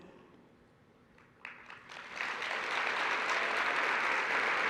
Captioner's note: applause